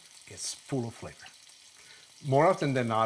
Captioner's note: sizzling